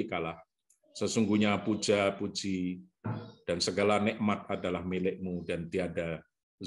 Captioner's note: speaks Arabic